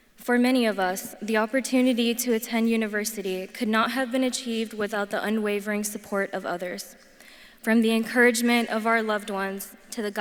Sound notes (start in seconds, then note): none